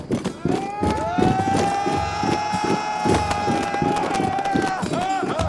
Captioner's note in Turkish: Bağrışmalar